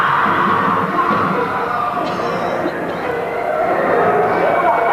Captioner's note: distant yells of villagers